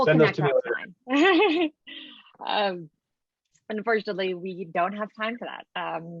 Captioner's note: laughing